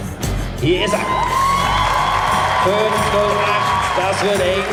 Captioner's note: applause